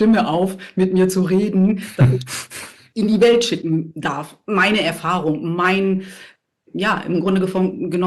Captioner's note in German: gelächter